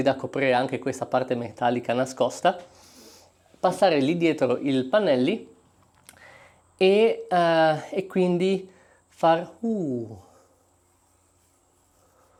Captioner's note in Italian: sbuffare